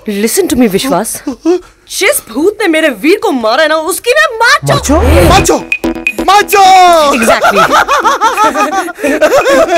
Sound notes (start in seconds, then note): 7.2 Vishwas laughing